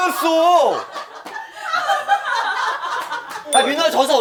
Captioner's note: laughing